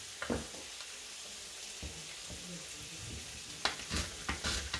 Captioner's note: sizzling